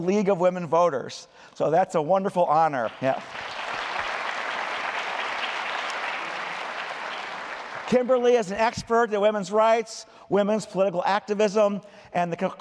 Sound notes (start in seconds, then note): 2.7 applause